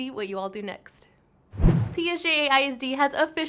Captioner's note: whoosh